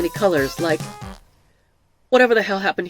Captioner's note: music abruptly stops